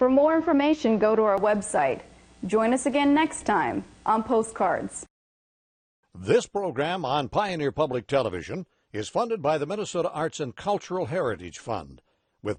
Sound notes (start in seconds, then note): 6.4 voiceover